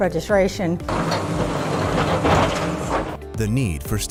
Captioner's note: construction sounds